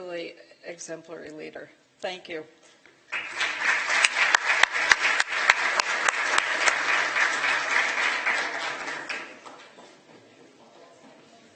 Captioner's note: applause